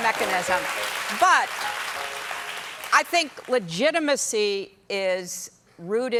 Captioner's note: applause